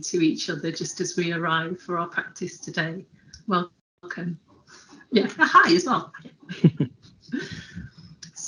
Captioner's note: laughter